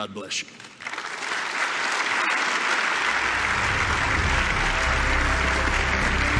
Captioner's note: applause